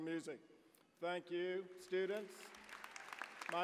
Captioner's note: applause